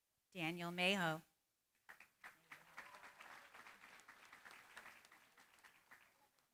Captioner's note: applause